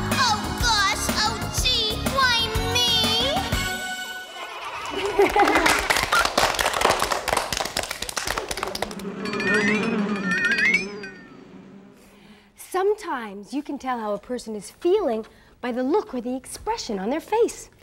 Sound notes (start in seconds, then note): 4.8 clapping; 9.1 buzzing